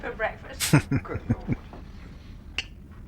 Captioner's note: chuckling